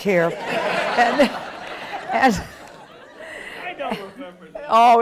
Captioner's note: chuckles